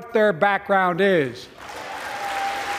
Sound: applause

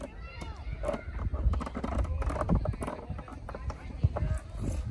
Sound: chain creaks as it unwinds

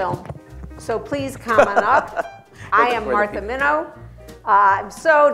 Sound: laughter

